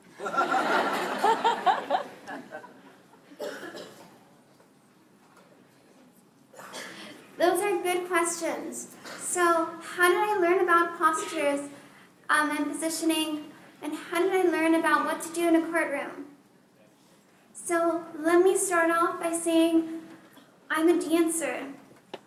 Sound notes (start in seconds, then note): 0.1 laughter; 3.3 silence